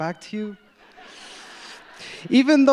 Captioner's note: audience laughs